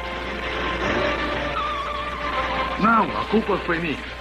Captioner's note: tires Screeching